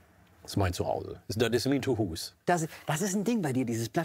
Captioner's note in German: Er spricht Plattdeutsch